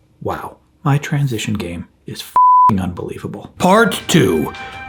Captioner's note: beep